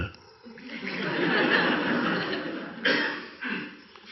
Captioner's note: audience laughs